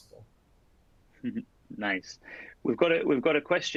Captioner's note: laughs